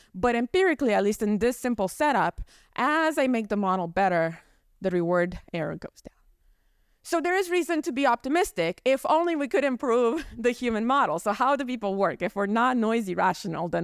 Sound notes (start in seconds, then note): 10.1 chuckles